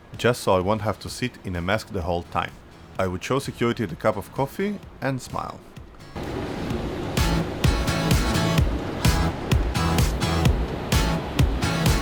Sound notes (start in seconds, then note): 6.1 moving walkway whirring